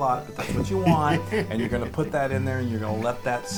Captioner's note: laugh